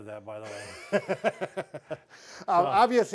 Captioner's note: laughs